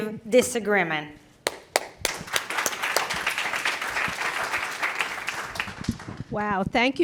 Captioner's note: applause